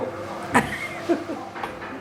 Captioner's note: laughs